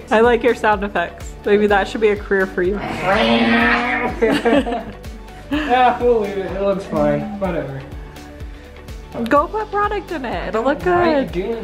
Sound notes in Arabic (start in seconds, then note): 2.7 كلاهما يصدر أصوات شفرات